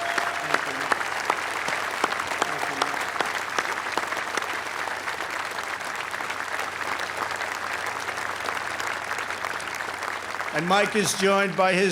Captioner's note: applause